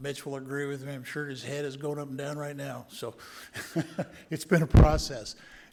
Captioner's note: laughing